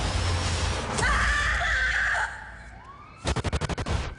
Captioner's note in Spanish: Gritos